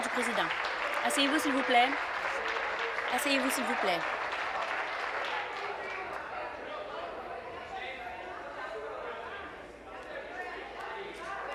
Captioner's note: applause